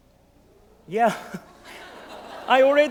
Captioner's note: laugh